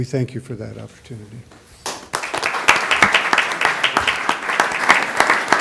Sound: applause

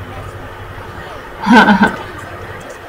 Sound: laughs

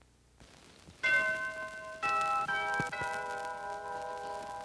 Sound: bell ringing

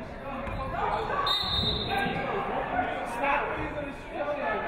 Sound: referee whistles

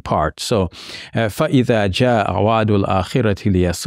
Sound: speaks in Arabic

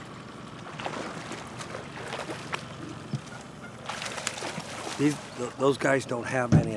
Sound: fish splashing

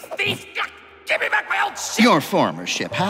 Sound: exclaims

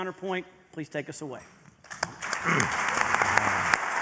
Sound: applause

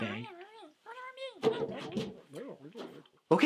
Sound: critters mumbling in agitation

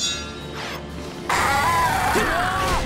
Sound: screeching

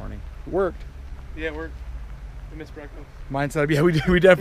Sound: chuckles

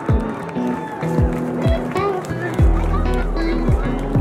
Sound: crowd cheers

